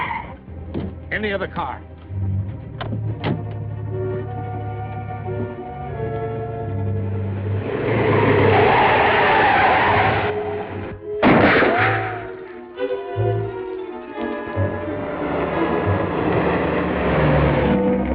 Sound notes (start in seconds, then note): 1.4 suspenseful music; 8.0 tires screeching; 11.2 gunshot; 11.9 fuel spilling